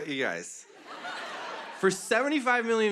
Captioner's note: laughter